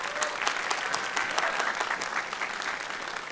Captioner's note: applause